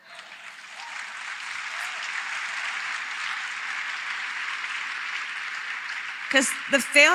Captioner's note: applause